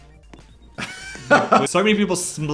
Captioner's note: chuckles